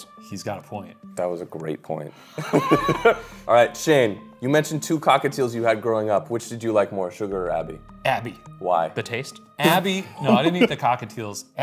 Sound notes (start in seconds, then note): 2.3 they laugh; 9.6 laughs